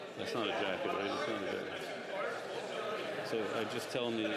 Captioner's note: chatter